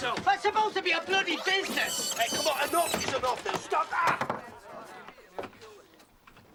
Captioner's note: gemidos